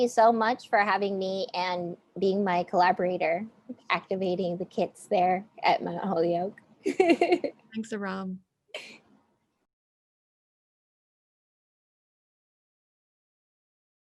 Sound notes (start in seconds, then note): 6.9 laughing